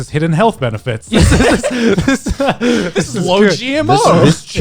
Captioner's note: guys laughing